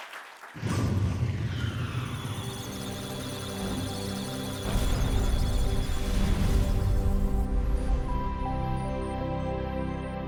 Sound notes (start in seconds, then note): 1.0 musical tones; 2.4 electronic sounds of data